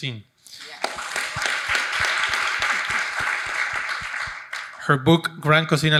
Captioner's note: audience applauding